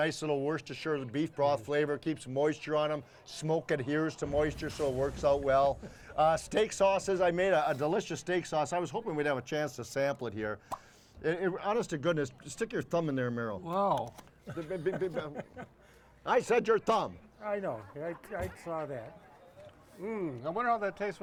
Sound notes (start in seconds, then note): 14.0 stuttering; 14.5 laughing